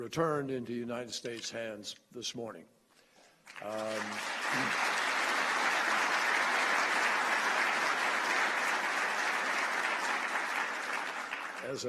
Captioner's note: applause